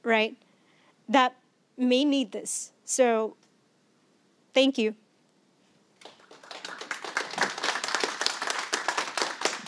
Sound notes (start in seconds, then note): 6.0 clapping